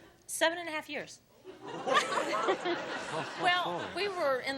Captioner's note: laughter